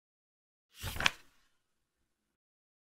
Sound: page flip sound

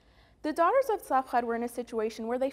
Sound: Hebrew

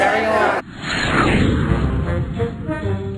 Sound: whoosh; jazz music

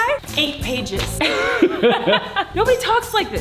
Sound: both laughing

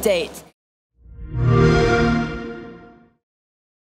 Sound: xbox sound

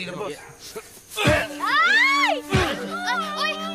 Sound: grunting

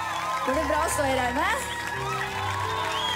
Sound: cheers

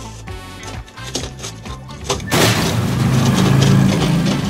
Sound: rocks crashing

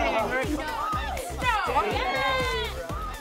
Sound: yelling

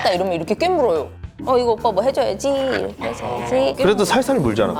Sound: growl

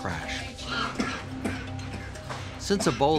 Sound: coughing

